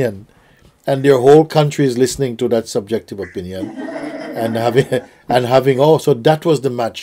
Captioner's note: laughter